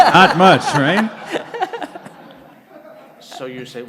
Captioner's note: laughter